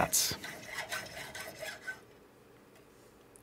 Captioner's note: grinding noises